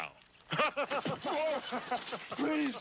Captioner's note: laughing